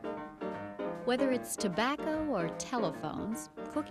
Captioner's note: narrator, speaking over music